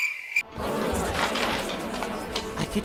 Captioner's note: arguing